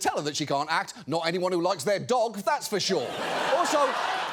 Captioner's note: audience laughs